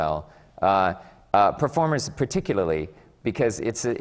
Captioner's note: none